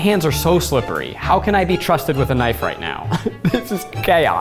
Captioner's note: laughs